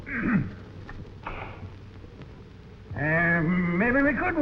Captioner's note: stove hissing